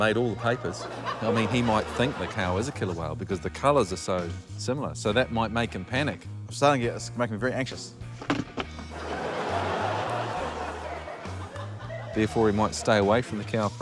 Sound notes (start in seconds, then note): 8.9 laughter